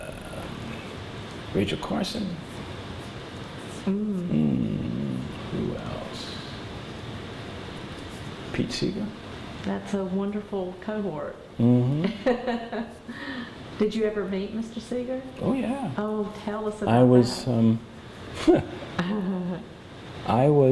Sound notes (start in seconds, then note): 1.9 laughs; 18.4 laughter